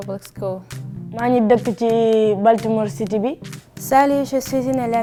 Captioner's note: speaks in foreign language